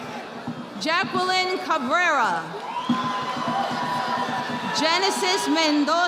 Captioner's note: audience applauding